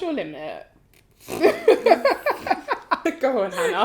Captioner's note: laughter